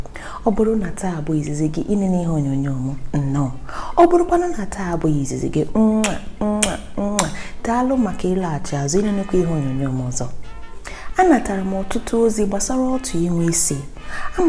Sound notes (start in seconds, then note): 6.0 kisses